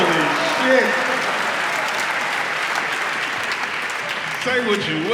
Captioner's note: audience applauds